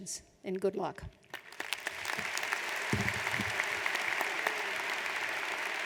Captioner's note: audience applauds